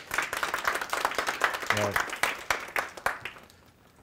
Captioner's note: audience applauding